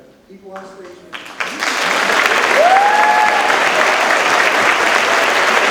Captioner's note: audience cheers and claps